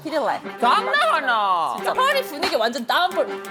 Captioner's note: in Korean